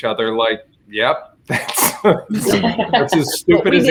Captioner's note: all laughing